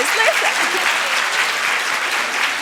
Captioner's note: applause